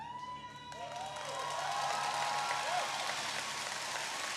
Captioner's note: audience cheering